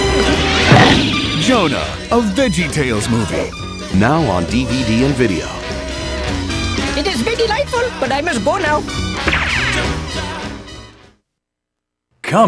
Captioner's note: roars